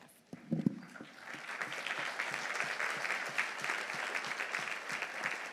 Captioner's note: audience applauding